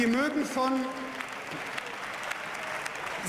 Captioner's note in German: Beifall